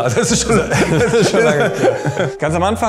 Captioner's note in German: Lachen